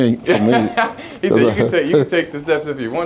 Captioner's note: laughing